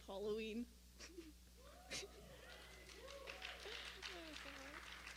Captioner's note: cheers and applause